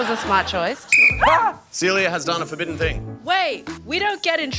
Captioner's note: blows whistle